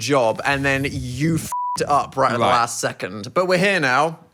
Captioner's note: beep